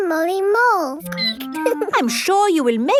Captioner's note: squeaking